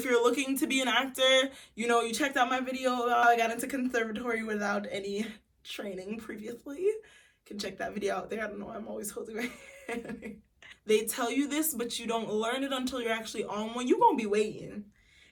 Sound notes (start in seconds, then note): 9.5 laughs